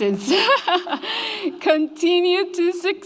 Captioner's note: laughs